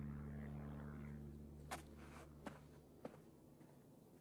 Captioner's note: footsteps retreating